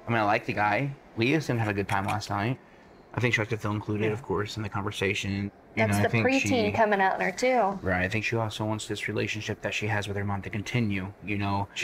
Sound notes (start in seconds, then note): none